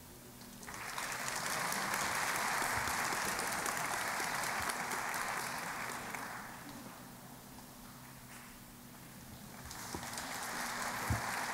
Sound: applause

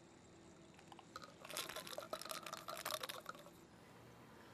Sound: pills clattering

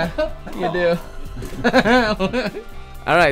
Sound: laughs

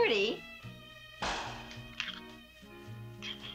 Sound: pop of champagne bottle

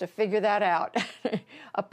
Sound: laughter

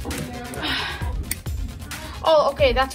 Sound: sighs

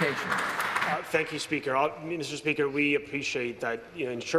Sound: some Applause

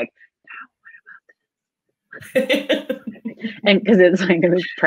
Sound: whispering

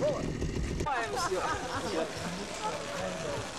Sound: laughter

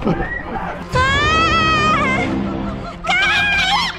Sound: screams

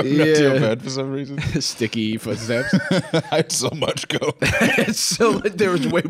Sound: laughing

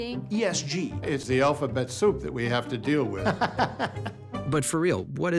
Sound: laughs

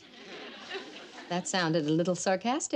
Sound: audience laughs

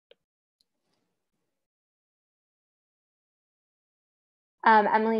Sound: silence

